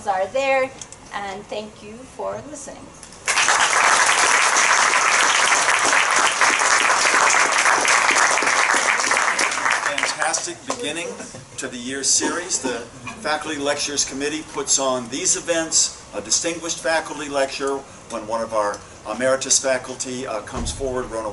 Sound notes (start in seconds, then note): 3.2 applause